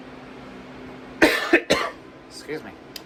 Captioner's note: coughs